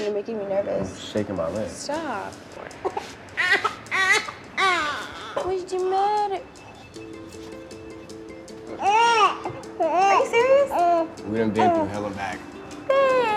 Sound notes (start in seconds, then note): 4.5 crying; 7.0 dramatic music